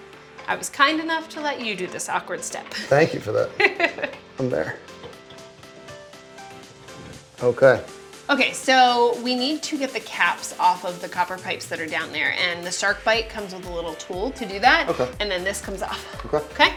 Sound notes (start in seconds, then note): 3.5 laughs; 4.8 upbeat music